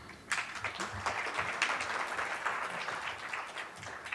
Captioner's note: applauding